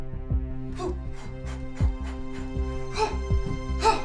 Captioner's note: Paula breathing heavily; grunting